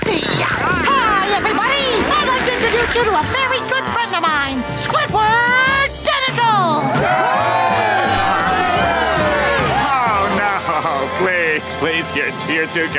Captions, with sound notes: Hi everybody, I'd like to introduce you to a very good friend of mine, Squidward Tentacles! [cheering] Oh, please please, you're too kind.